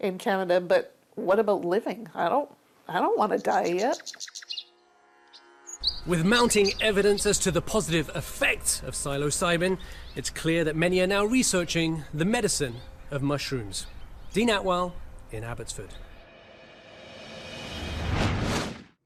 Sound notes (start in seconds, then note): 14.0 birds chirping